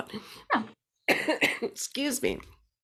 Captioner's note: coughs